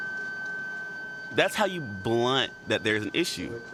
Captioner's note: beeping